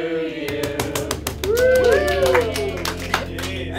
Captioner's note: crowd; clapping; upbeat music